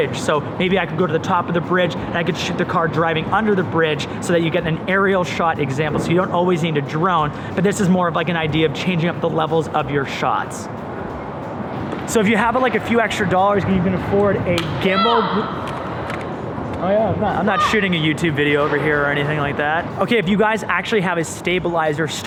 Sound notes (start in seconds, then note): 15.1 shouting